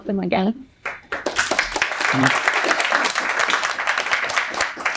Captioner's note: audience applauding